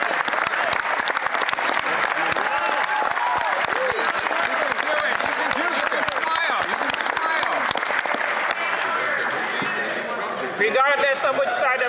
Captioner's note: some Applause